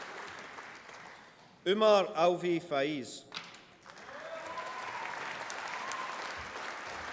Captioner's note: applause